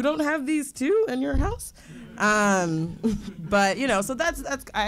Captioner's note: audience laughing